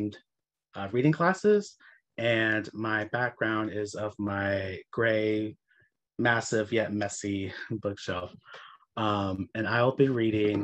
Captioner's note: chuckles